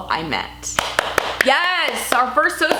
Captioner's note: clapping